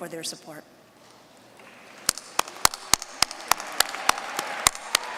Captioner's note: applause